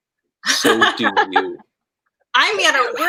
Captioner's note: laughing